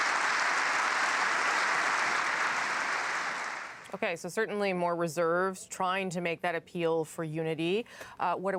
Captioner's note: applause